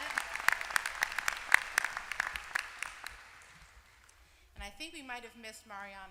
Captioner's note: applause